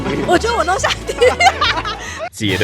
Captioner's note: laughs in perdition